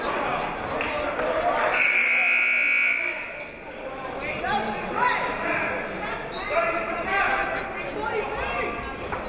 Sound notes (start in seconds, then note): 1.7 buzzer